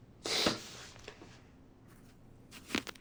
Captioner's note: sniffles